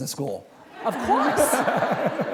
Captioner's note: laughter